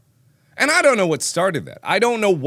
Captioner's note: in his normal voice